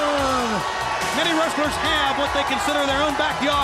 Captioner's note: crowd cheering